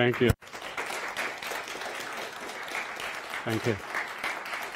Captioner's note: audience applauds